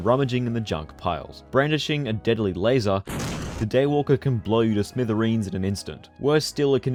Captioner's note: boom